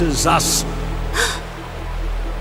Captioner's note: gasp